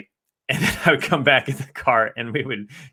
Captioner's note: chuckles